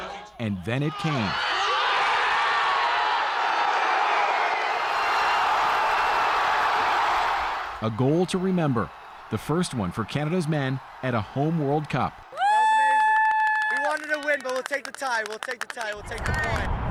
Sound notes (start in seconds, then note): 3.1 cheers and applause